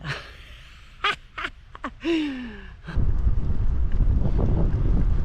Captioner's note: laughter